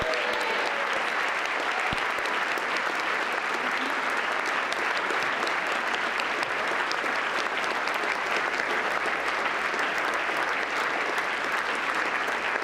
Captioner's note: applause